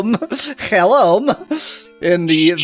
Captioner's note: stammering